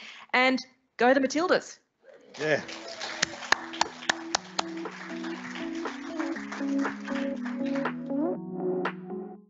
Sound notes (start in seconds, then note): 2.3 applause